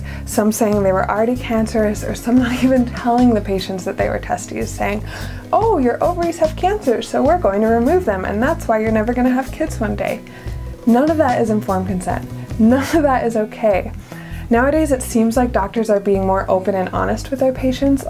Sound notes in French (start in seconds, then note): none